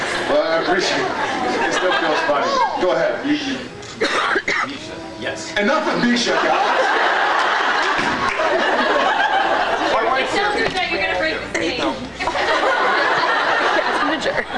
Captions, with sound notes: Well I appreciate -- it still feels funny. Go ahead, you -- you -- Um... Misha. Yes. Enough with Misha, guys! [laughs] [laughs] [stomp] [laughs] [laughs] Don’t do that, you’re going to break the stage. [laughs]